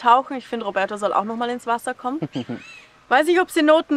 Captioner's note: laughs